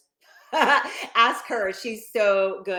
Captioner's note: laughing